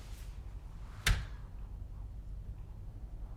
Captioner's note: door closes